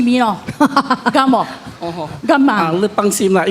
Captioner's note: laughter